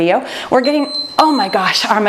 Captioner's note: timer beeps